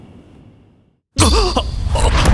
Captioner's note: gasping in surprise